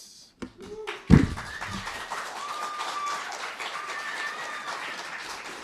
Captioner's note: applause